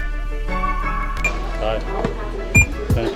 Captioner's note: beeping